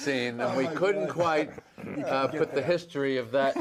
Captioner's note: laughter